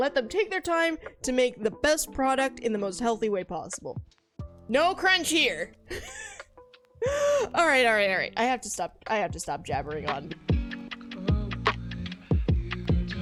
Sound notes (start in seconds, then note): 5.9 laughs